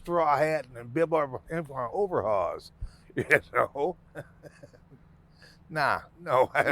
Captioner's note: laughing; laughing